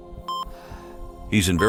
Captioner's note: monitor beeps; heart beating